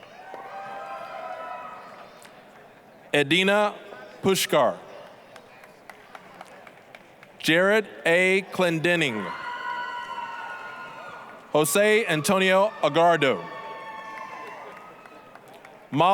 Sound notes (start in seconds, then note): 0.1 applause, cheering; 5.0 applause; 9.3 applause, cheering; 14.5 applause, cheering